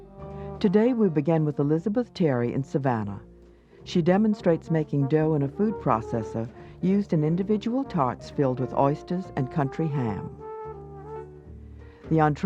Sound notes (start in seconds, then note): 1.0 voiceover